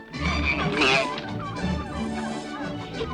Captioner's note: bull bellows, chickens cackle